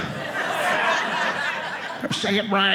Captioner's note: audience laughing